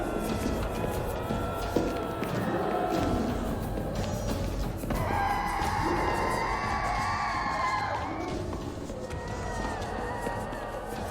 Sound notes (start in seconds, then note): 7.1 revenants screeching